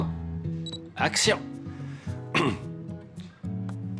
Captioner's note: throat clearing